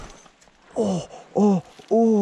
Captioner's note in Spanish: quejidos de dolor